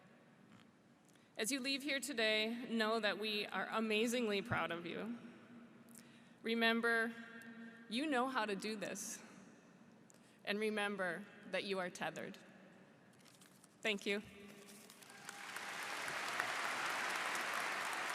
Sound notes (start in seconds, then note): 14.8 applause